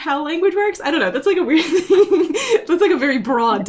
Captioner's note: laughs